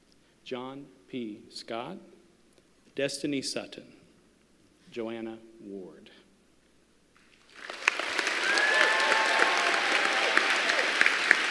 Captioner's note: applause